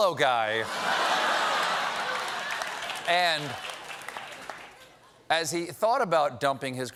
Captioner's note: laughter